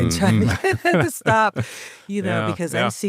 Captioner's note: chuckles